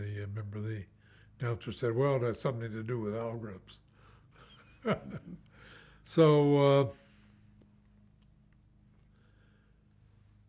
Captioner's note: laughs